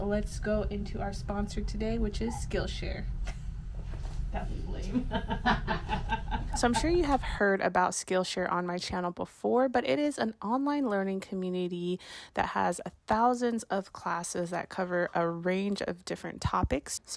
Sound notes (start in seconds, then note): 4.9 chuckles; 5.0 laughs